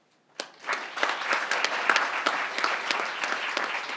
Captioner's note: crowd applauding